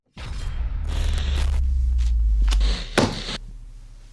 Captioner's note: static buzzing